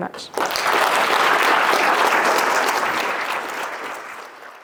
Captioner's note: audience applauding